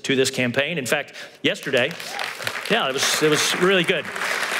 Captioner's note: applause